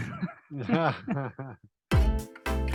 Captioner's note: laughing; bright music